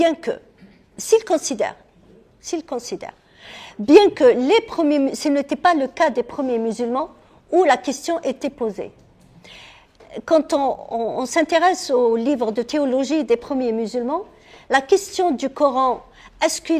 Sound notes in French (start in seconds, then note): 0.5 raclement de gorge